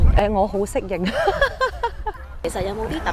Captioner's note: laughs